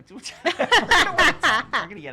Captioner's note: laughing